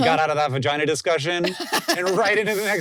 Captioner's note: laughs